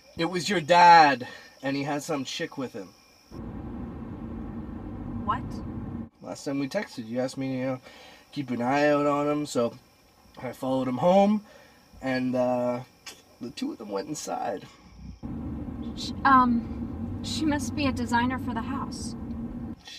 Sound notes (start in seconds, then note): 3.4 wind blowing; 14.9 wind blowing